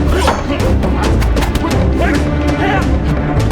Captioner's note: tense music; both grunt